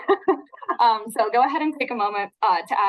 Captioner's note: chuckles